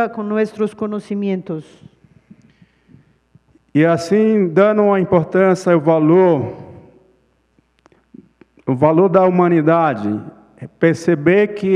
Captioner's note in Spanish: Ponente habla en portugués